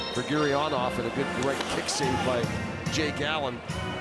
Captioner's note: booing